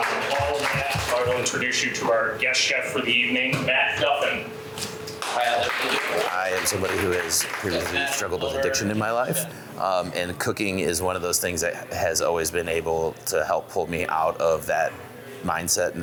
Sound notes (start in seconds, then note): 5.1 guests clapping